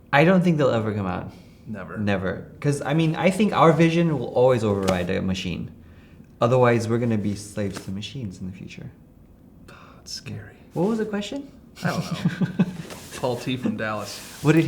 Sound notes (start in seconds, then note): 11.7 laughing